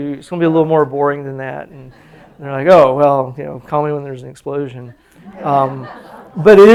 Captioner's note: laughter